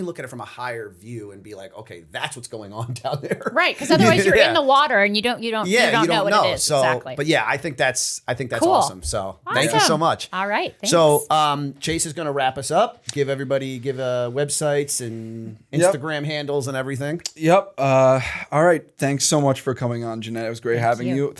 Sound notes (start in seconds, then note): 2.8 laughter